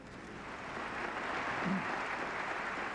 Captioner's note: applause